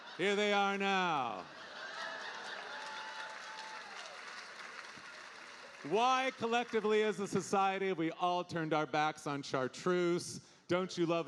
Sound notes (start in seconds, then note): 1.8 audience applauding